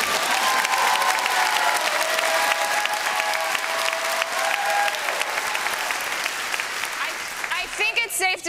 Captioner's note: applause